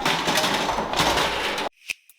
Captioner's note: crashing noises